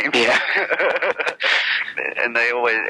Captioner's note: laughs